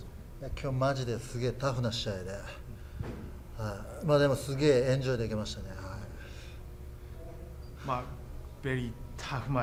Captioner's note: foreign language spoken